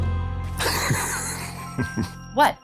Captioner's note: laughs